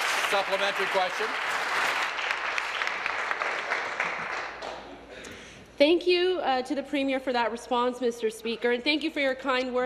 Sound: applause

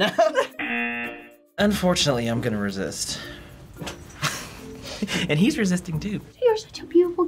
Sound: buzzer; chuckles

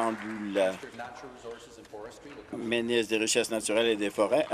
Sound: applause

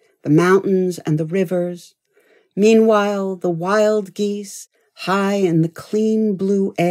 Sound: none

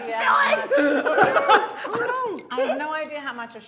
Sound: laughing

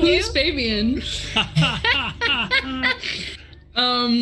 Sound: group laughs

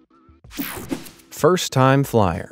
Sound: screen whooshing

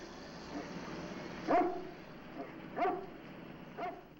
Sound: barking

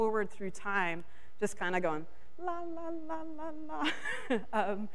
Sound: laughs

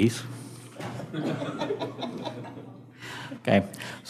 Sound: audience laughing

